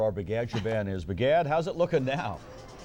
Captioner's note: laughter